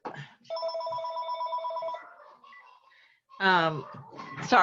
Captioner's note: phone ringing